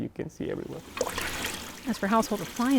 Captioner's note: water gushing